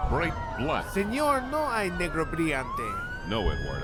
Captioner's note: speaking in Spanish